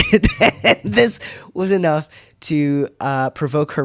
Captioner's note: laugh